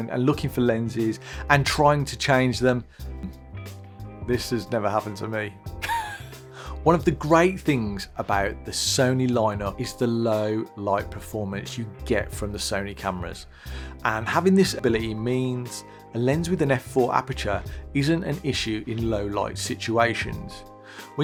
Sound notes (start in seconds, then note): 5.8 laughs